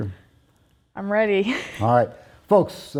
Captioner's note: soft chuckle